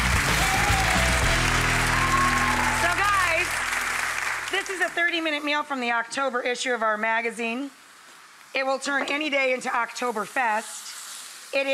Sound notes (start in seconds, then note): 2.2 audience applauding